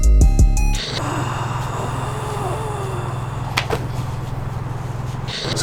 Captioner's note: exhaling in relaxation